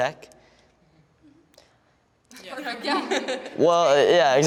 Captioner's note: laughter